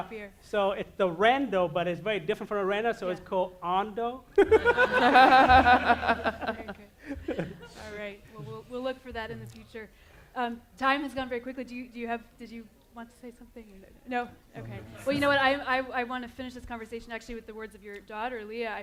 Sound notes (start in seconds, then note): 4.3 laughter